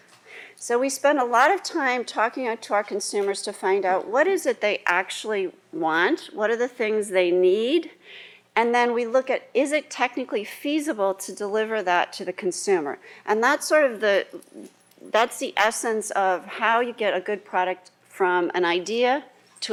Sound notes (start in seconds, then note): none